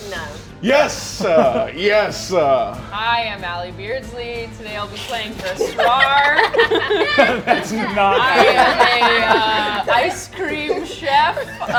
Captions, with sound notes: - No. - Yes! Yes. - Hi, I am Ally Beardsley. Today I'll be playing Basrar. (laughing) - That's not-- - I am a ice cream chef.